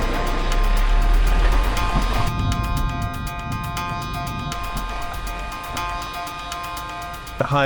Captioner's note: gentle stirring music; plane swooshing; vehicles whirring; stirring music continues